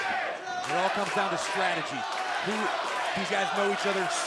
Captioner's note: crowd cheering